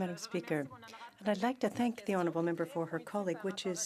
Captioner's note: speaking French